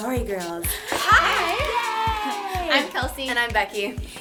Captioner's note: cheering